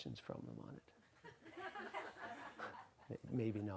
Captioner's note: audience laughs